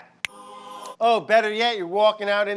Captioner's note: fingers snapping